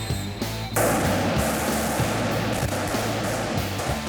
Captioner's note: gun fire